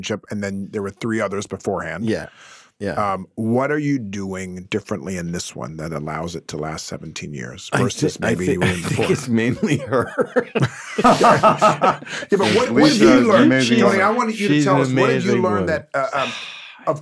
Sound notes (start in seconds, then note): 11.4 Spiridakis and Goldwyn laughing